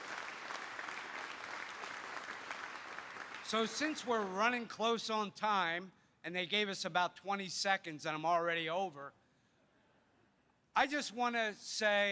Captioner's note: applause